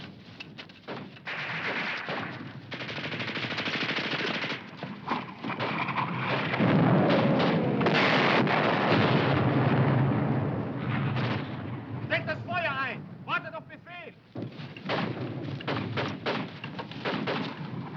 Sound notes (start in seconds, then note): 0.8 guns firing; 12.4 speaking foreign language